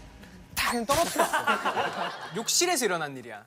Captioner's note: snap